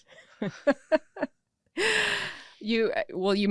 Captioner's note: laughing